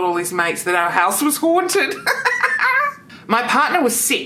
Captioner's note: laughs